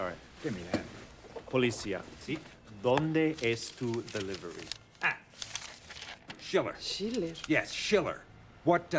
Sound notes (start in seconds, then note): 1.7 speaking foreign language